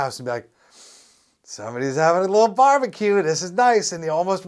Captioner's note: sniff